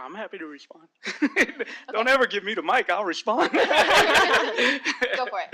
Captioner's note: laughter